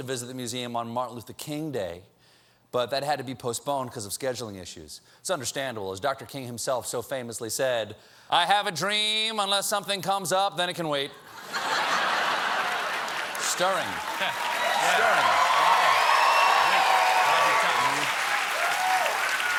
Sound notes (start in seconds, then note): 12.3 applause; 13.1 laughter; 15.9 cheers and applause